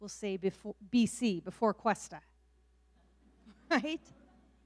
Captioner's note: laughs